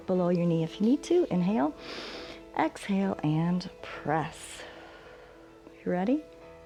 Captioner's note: inhales